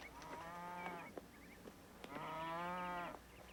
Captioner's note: cow mooing